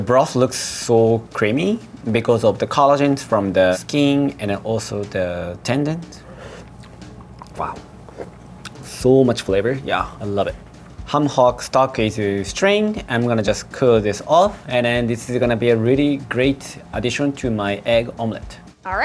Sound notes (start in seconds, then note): 6.2 sipping